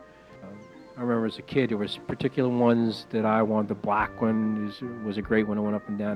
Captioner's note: horses